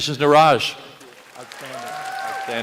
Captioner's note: applause